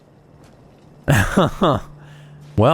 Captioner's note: chuckle